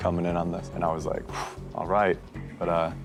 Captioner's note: exhales